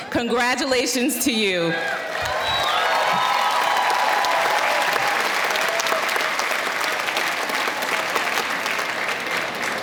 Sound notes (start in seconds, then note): 1.7 audience cheering